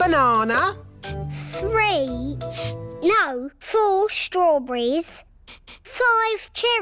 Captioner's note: sniffs